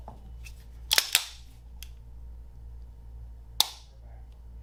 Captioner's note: pistol cocking